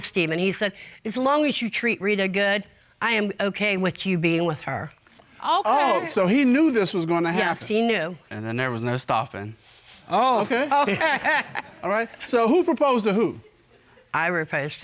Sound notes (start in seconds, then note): 10.2 chuckles